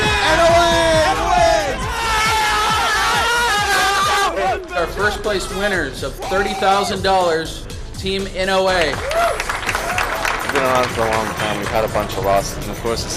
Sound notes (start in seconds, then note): 2.5 cheering